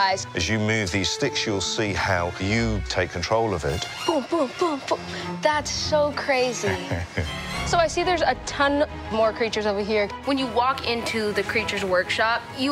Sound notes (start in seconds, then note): 6.6 chuckling